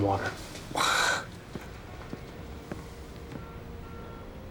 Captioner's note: sighs